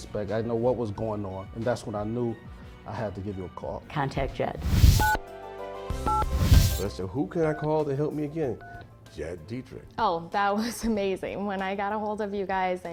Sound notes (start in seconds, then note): 6.1 phone dialing